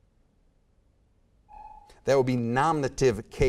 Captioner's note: timer buzzes